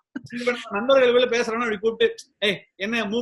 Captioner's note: laughs